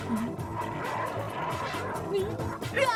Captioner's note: wolves growling